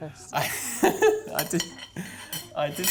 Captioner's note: chuckling